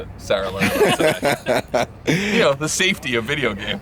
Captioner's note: laughing